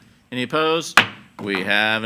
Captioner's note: gavel banging